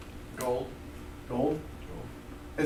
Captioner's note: voiceover